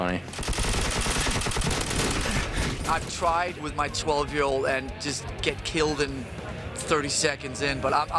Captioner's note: gunfire